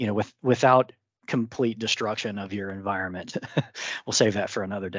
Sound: chuckles

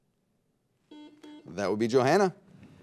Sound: buzzer beeps

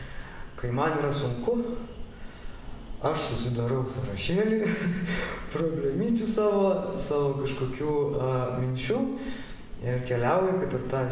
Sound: laughing

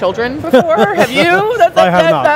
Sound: laughs

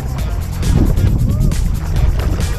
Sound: background woo

